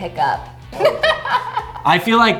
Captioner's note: laughs